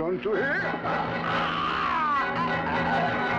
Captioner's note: screams